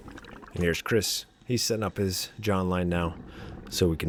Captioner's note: water Sounds